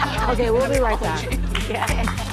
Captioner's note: laughing